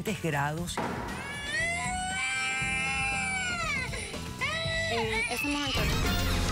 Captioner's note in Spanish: llanto de bebé